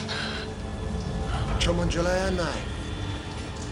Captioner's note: speaking cantonese